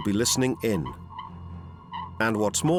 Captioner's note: electronic beeping